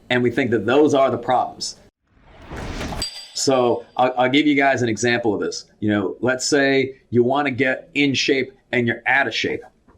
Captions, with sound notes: and we think that those are the problems. (bell ringing) So I'll give you guys an example of this. Let's say you wanna get in shape, and you're out of shape.